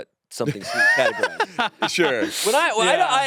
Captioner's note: laughs